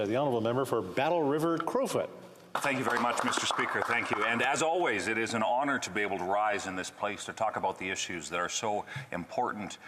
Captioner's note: applause